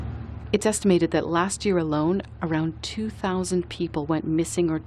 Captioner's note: voice-over